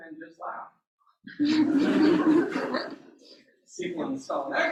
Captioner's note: laughter